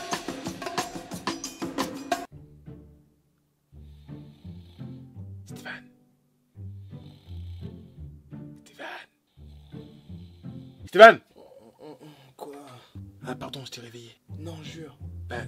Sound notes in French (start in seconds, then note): 5.8 en chuchotant; 8.8 en chuchotant un peu plus fort; 11.0 en criant